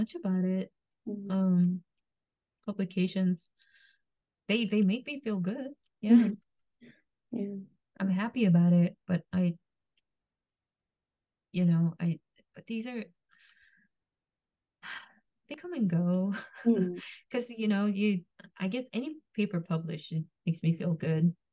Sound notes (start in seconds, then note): 13.0 sighs